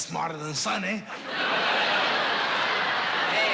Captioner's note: laughter